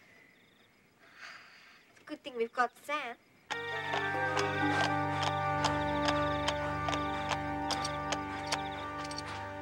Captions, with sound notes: (Dee sighs) - It's a good thing we've got Sam. (sinister music) (horse hooves clopping)